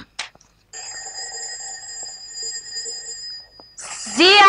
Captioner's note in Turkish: Kapı zili